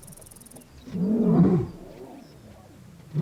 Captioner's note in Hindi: दहाड़